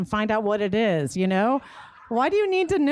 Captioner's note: laughter